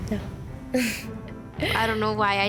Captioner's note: chuckles